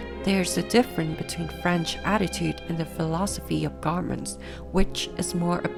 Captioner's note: French